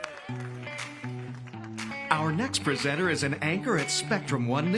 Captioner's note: applause